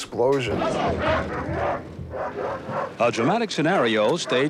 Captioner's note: dog barking